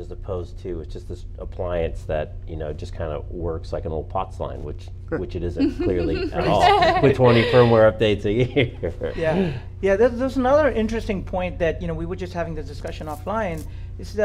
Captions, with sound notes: as opposed to just an appliance that kind of works like an old POTS line, which it isn't, clearly at all. (all laugh) With 20 firmware updates a year (laughs). >> Yeah, there's another interesting point, that we were just having the discussion offline,